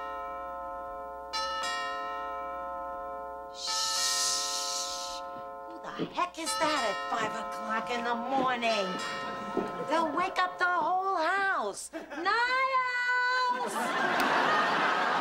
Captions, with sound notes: (SHUSHING) Who the heck is that at 5:00 in the morning? They'll wake up the whole house. Niles!